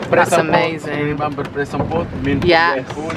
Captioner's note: continues chattering